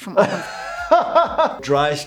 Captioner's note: doctor laughs